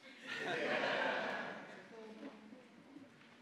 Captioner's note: audience laughing